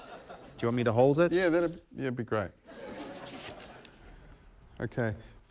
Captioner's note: laughter